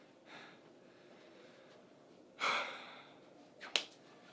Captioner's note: coach exhaling